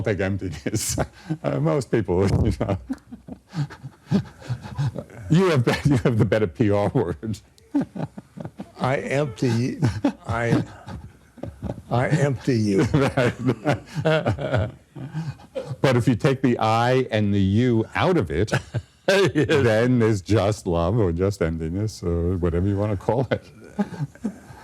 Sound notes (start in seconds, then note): 2.2 laughter; 7.3 laughing; 8.0 laughter; 12.1 laughter